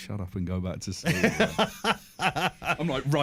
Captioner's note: laughs